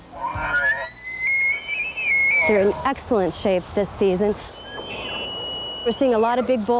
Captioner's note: nats of elk call-bull